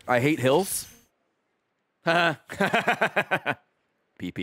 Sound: laughs

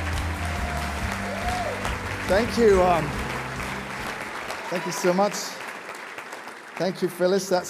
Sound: applause

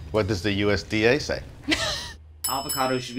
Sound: laughs

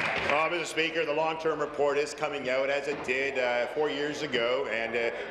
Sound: applause

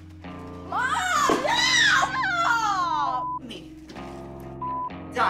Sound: beep

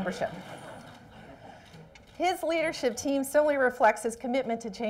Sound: laughter

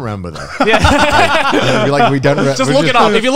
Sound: everyone laughs

